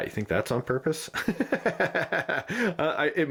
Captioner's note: laughs